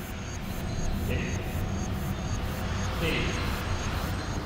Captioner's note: voiceover